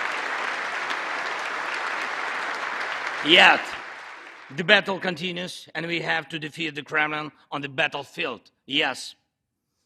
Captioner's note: applause